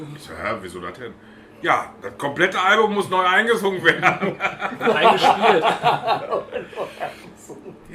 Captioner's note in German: lachen